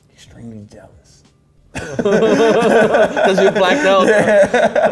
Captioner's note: both laugh